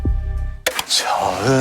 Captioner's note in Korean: 딸각